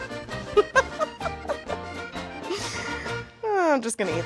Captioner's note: laughs